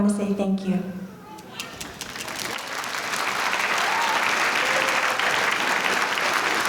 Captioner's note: audience applauding